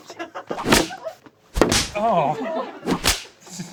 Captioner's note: dense thud